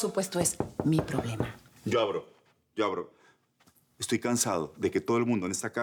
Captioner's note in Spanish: Toques en la puerta